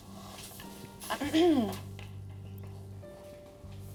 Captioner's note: clears throat